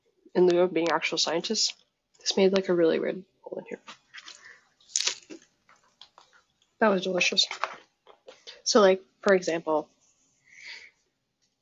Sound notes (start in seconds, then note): 4.8 crunching